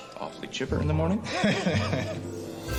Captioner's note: laughs; raucous laughter